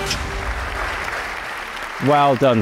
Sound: audience applauding

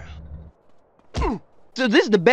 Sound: thump

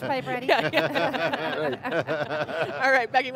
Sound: everyone laughs

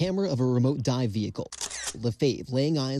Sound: camera shutter sound

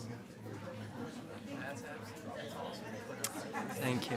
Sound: attendees chattering

